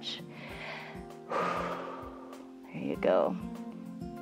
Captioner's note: inhales and exhales